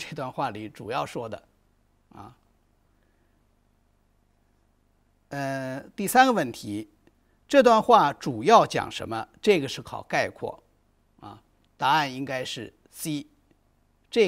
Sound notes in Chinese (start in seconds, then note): 8.5 空白_音频